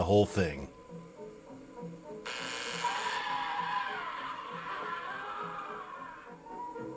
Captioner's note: screaming